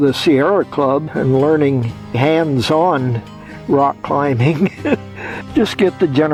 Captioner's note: laughs